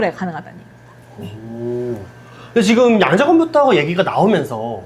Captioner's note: laughs